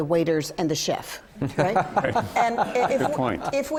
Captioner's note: laughter